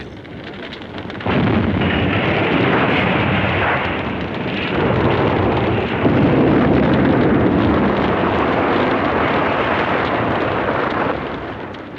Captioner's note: bomb explosions, air–raid sirens